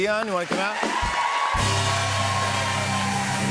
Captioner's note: cheers and applause